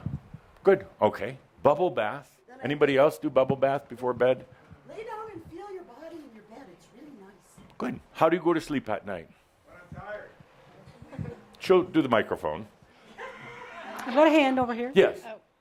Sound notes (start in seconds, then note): 9.7 someone yells “When I’m tired”